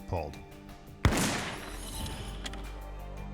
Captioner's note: gunshot